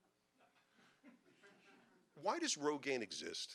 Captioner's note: audience laughing